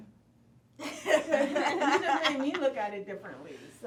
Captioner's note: laughing